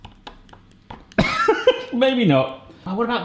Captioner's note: laughs